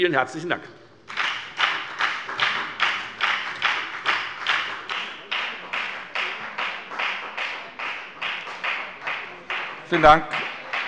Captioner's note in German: Beifall bei der FDP